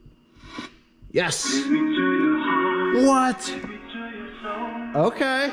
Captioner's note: radio plays